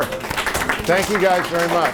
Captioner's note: audience applauds and thanks